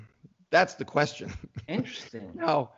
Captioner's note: laughs